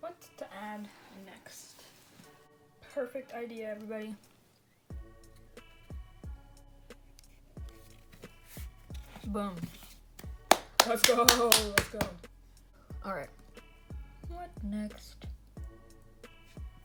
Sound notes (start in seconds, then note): 6.1 clapping